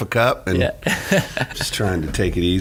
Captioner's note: laughing